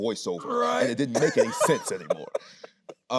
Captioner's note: laughing